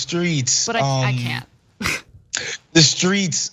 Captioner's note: laugh